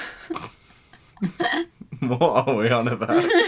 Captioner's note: laughing